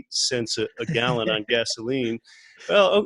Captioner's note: laughs